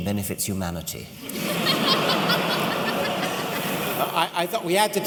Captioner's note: laughter